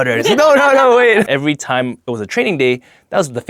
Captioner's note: laughing